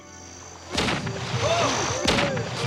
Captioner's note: gunshots